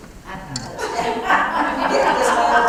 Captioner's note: laugh